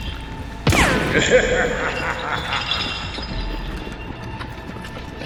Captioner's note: maniacal Laughter